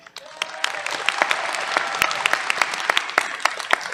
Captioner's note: applause